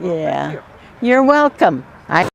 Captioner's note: horse and buggy noise w/ traffic